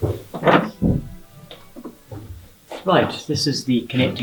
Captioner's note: door opens